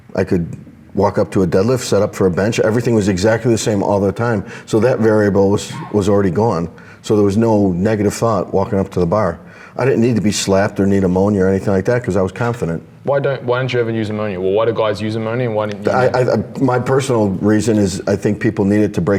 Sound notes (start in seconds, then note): 15.7 murmurs